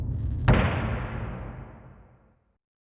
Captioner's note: stamp thuds